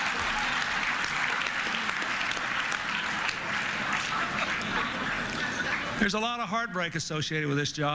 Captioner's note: laughter